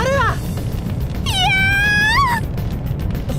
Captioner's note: panicked scream